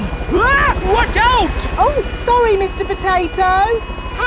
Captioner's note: screams